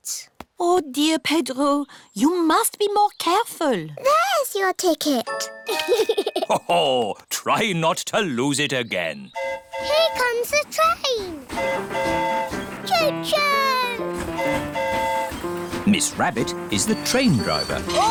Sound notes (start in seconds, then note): 5.6 giggles; 9.3 train horn hooting; 14.0 train horn hooting